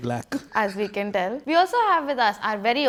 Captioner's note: laugh